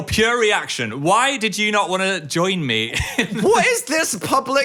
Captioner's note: laughs